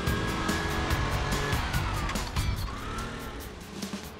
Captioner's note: engine rattling